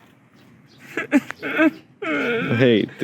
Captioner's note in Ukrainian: плаче